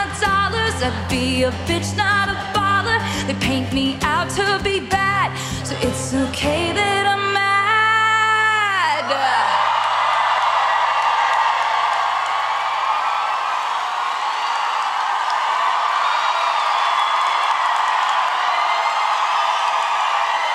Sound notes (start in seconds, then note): 8.9 audience cheers